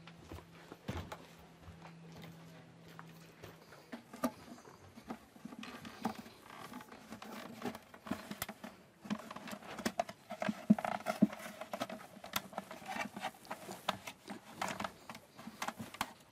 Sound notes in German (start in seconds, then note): 9.1 Knarzen